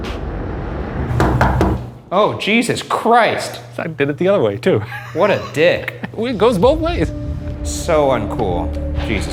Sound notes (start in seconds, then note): 0.2 tense dramatic music; 1.1 knocking